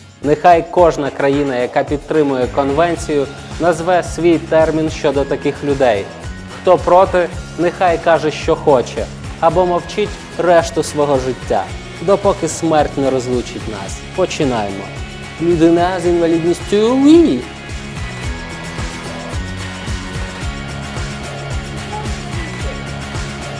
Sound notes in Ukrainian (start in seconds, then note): 16.7 з французьким акцентом; 19.4 ритмічна музика